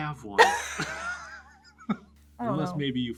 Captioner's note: laughs